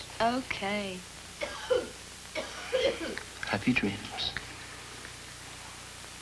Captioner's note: coughing from gran upstairs